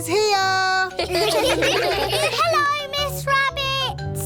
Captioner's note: children giggle